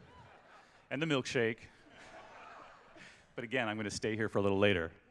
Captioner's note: laughter